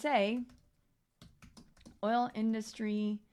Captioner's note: keyboard clicking